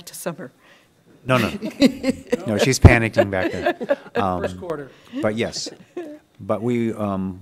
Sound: laughter

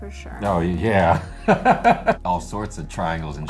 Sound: laughter

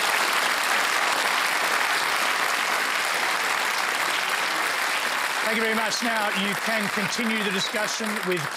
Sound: applause

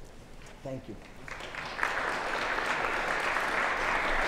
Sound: applause

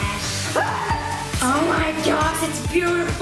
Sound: screams

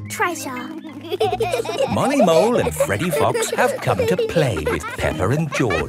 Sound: laughing

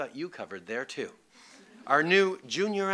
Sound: laughter

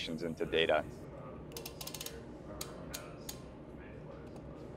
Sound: equipment clicks

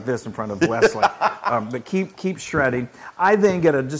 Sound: laugh

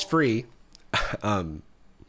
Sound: coughs

